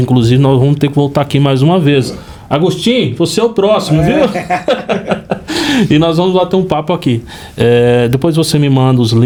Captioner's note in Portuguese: risadas